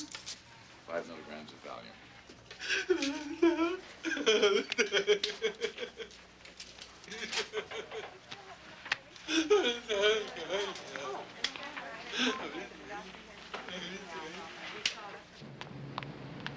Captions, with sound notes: Five milligrams of Valium. (Casey crying)